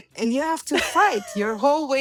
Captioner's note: laughs